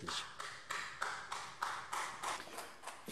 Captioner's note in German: Beifall